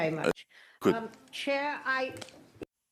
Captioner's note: speaking French